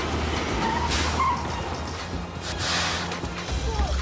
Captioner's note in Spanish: Chirrido de gomas